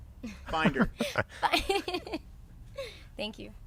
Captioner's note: laughs